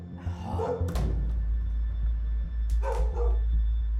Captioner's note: groaning